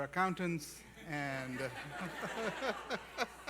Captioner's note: laughter